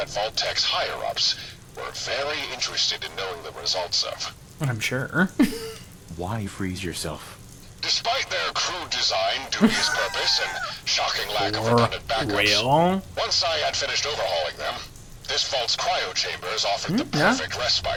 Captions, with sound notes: What, I'm sure. (laughing) Four. Real. Hmm, yeah.